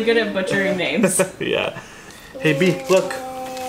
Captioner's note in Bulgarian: смее се